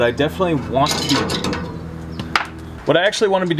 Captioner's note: nut clangs